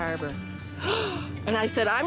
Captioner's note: gasping